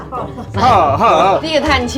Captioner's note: exasperated